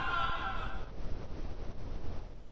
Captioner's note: man screaming in distance